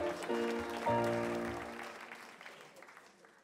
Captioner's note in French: Applaudissement